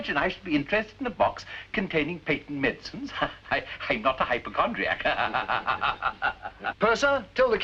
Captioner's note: laugthing